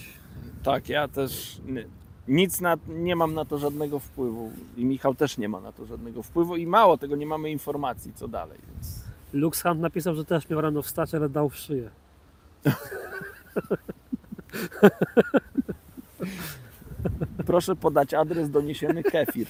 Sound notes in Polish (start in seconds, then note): 12.6 śmiech